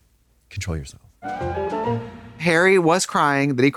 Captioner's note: whimsical chime